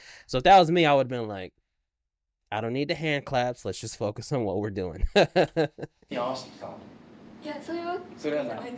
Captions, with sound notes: So if that was me, I would've been like, I don't need the hand claps, let's just focus on what we're doing. (laughing) (speaking in foreign language)